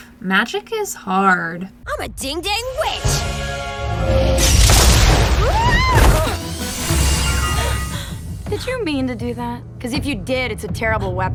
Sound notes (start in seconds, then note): 3.8 explosion and Luz screams